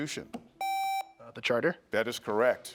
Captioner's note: buzzer beeps